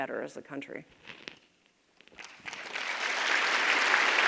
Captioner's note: audience applauds